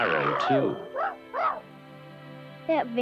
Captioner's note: Arrow barks